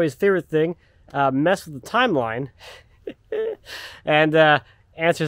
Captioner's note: laughing